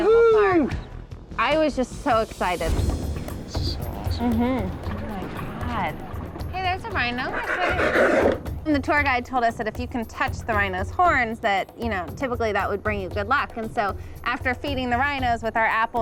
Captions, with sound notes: - Woo-hoo! - I was just so excited. - This is so awesome. - Mm-hmm. Oh my god. Hey, there's a rhino. Can I pet it? (rhino snorting) And the tour guide told us that if you can touch the rhino's horns that typically that would bring you good luck. And so after feeding the rhinos with our apples,